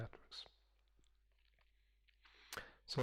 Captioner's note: pause